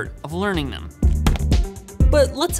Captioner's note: screen hits keyboard